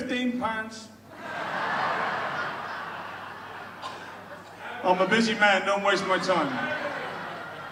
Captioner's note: audience laughs